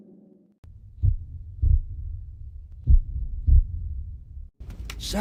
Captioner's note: heartbeat